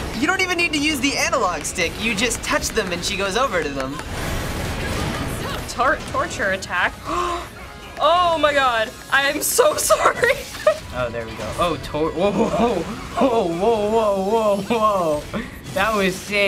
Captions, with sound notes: - You don't even need to use the analogue stick. You just touch them and she goes over to them. - Torture attack? (gasps) Oh my god! I am so sorry! - Oh, there we go. Oh, tor-- whoa-ho-ho-ho! Ho, whoa, whoa, whoa, whoa. That was sick.